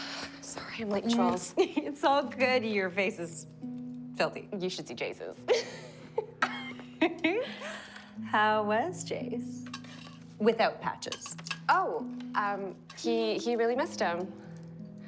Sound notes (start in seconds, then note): 5.5 giggling